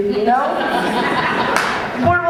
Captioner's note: audience laughter